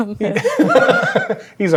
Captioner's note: laughing